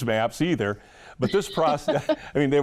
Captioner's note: laughing